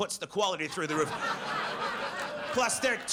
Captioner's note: audience laughs